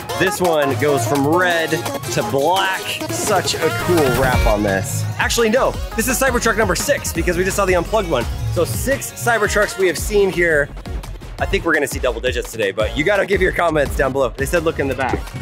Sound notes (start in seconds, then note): none